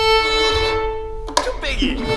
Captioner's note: snap